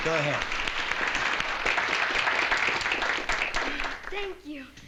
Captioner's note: applause